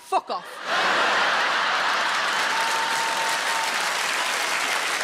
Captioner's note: audience applauds